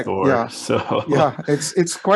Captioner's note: laughs